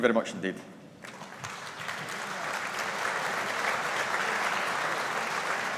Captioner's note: audience applauding